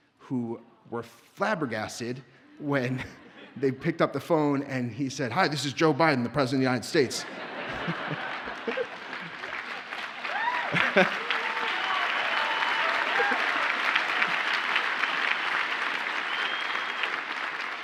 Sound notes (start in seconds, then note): 7.0 audience laughs; 8.6 audience cheers and applauds